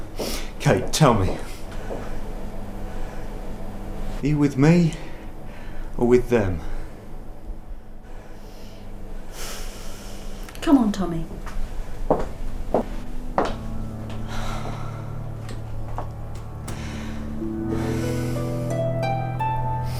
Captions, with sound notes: Kate, tell me. Are you with me, or with them? Come on Tommy. [ DOOR CLOSES ]